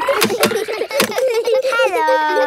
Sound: kids giggling; laughs

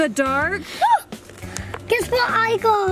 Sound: excitement gasp

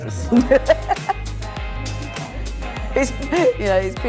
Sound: laughs

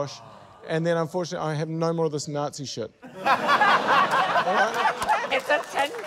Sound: laughter

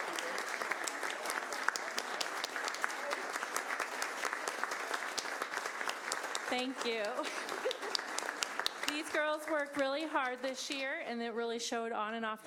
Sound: applause

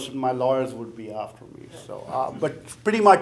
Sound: chuckling

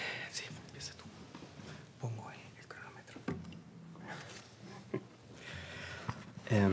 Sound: whispering in Spanish

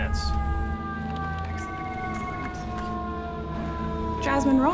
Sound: sirens

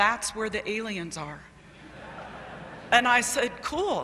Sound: laughter

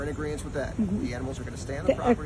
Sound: agreeance noises

